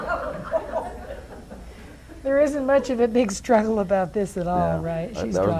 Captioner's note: audience laughs